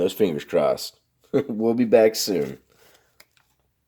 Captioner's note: chuckles